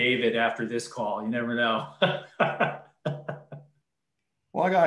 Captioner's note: laughs